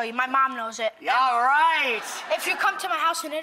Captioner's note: audience laughter